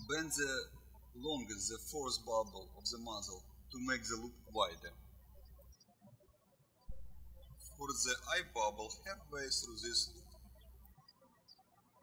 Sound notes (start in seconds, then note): 5.3 birds chirping